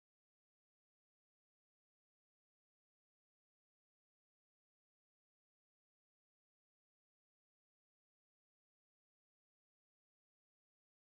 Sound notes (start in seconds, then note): none